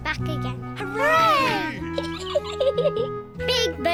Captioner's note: peppa pig giggles